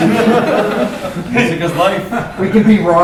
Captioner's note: laughter